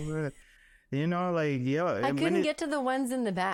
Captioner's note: laughing